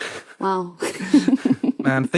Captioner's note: snickers